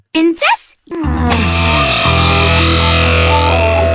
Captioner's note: groans